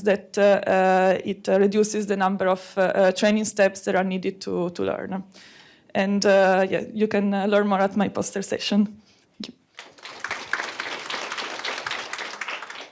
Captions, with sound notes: that it reduces the number of training steps that are needed to learn. And you can learn more at my poster session. Thank you. [APPLAUSE]